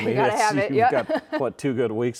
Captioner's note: laughing